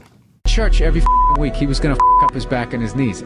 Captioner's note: beep